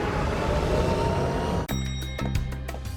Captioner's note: Batmobile revving